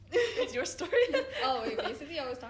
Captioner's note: laughing; laughs